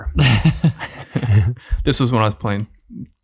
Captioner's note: all laughing